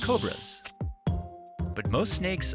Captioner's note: light music; snake rattling